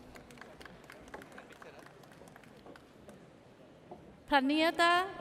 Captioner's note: audience applauds